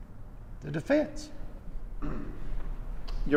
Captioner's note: Bob clearing his throat